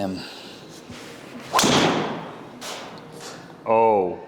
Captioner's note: golf club whacks